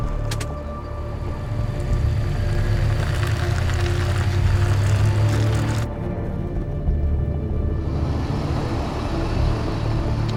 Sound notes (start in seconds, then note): 0.0 gear shift clicking; 0.2 ominous music; 3.3 gravel crunching